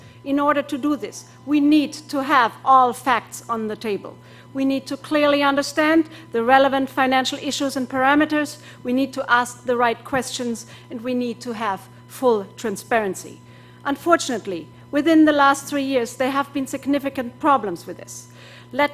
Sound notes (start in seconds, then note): none